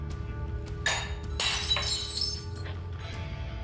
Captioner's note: glass shatters